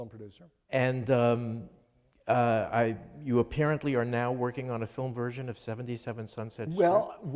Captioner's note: none